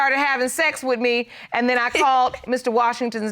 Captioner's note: chuckling